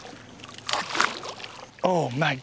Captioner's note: splas